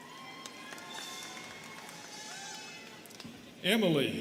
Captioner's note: students cheering and clapping